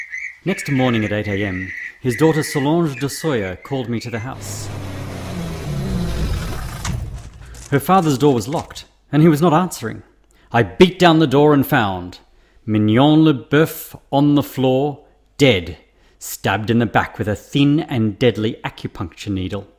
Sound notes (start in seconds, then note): 4.6 car arriving, car door closing, footsteps